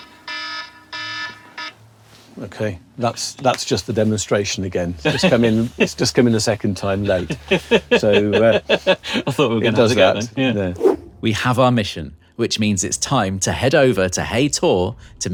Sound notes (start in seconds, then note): 0.0 ringtone stops; 7.0 laughs